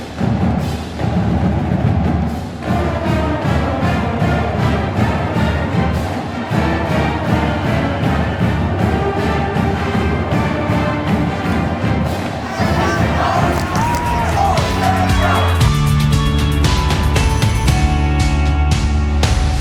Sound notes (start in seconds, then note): 12.4 crowd cheering and clapping